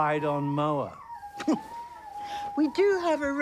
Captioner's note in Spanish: Robyn se burla